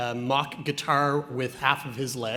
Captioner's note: none